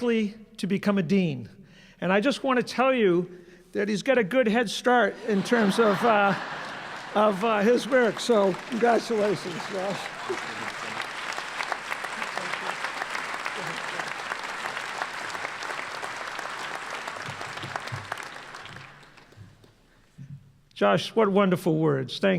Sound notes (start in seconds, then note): 14.6 applause